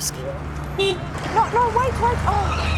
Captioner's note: horn honking